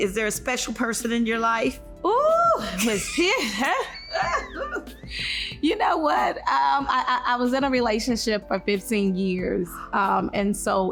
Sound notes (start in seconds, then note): 4.9 laughs